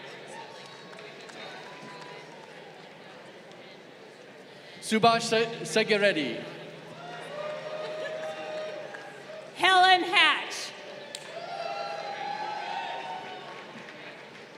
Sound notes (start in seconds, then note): 0.0 crowd applauding; 7.0 crowd cheering